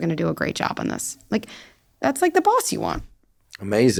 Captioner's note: inhales